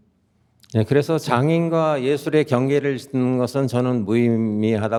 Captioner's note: speaking in Korean